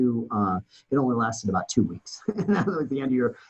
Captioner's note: laughs